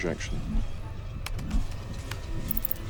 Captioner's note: keys clack